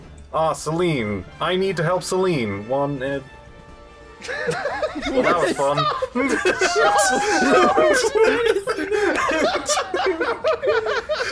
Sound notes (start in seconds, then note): 4.2 laughing; 4.7 laughter; 9.7 laughter